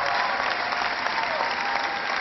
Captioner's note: cheering